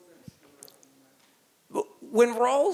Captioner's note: speaking off mic